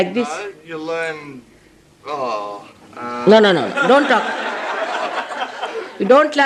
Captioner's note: laughter